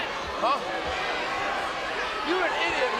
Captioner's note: crowd yelling